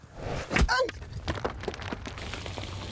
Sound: yells

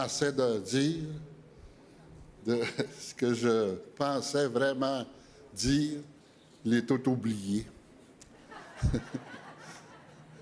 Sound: speaking French

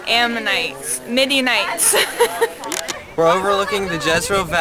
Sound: laughs

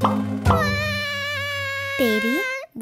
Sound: cries

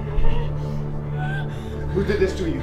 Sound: woman whimpering

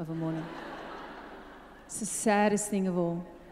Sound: audience laughs

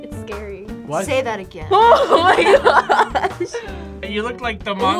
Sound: laughs

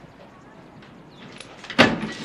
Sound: door opens

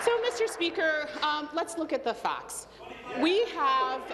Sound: applause

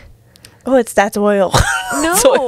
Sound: laughs

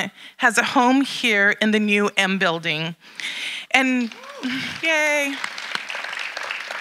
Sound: audience applauding

